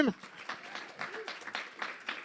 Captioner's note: applause